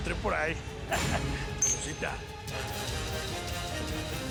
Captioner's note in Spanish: risotada